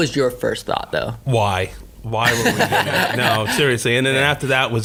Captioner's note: laughing